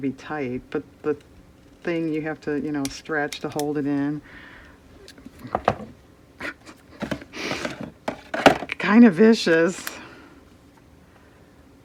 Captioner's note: laughs